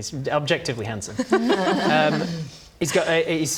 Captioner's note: polite laugh